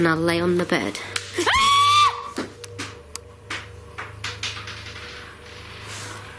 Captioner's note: banging; screams